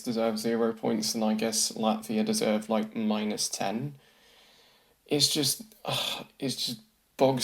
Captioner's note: sighs in exasperation